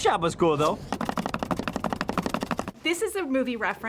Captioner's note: thudding